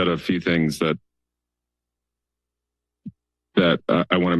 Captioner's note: pause